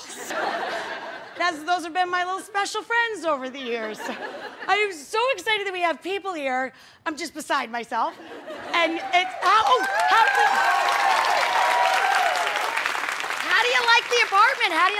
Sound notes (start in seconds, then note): 0.0 audience laughing; 8.2 audience laughing; 8.8 audience cheering